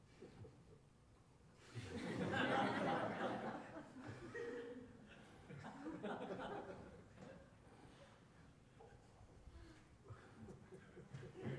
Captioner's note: laughter